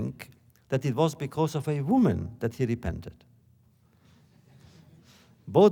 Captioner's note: laughter